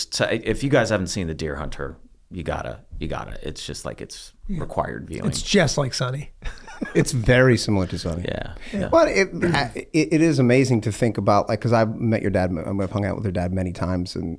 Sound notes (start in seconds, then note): 6.4 laughs